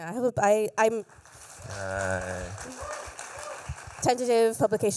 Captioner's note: applause